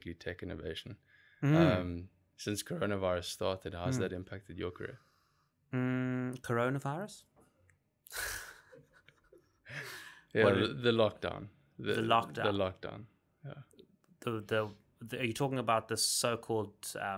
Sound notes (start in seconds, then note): 7.2 laughing